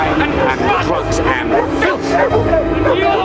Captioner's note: dogs barking